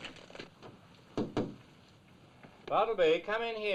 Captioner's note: tapping